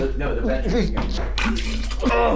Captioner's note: Keith retching